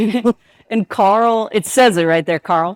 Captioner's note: chuckles